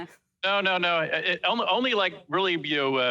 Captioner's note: laughs